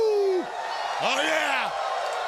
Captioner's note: crowd cheering